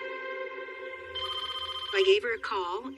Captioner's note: phone rings